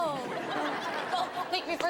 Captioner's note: audience laughs